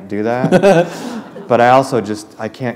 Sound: laughter

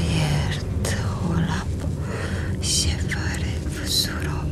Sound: whispering incantation

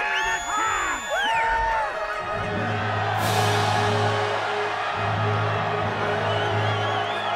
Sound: crowd cheering; inspirational music

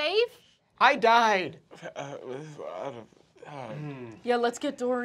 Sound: stutters

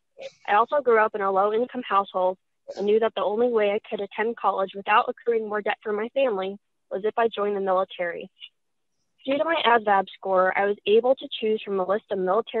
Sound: distorted audio

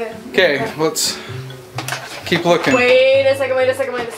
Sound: bell dings

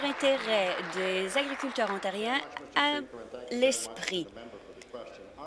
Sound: applause

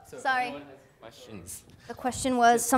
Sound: student speaks faintly

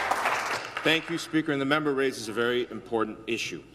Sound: some Applause

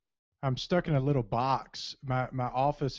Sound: voiceover

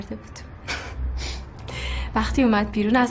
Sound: laughing

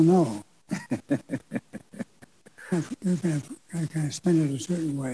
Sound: laughs

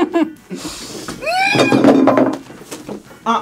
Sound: laughs; screams

